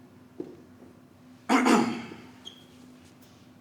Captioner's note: he clears throat